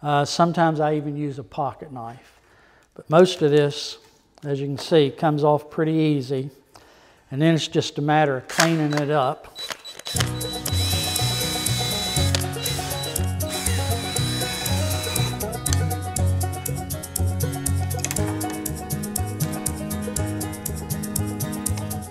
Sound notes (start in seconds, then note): 10.0 high pitched machine humming; 12.5 energetic music